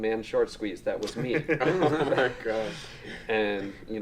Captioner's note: all laughing